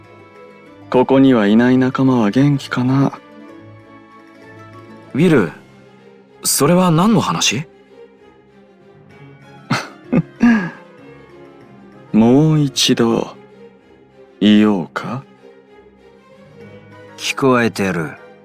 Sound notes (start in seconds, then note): 9.7 laugh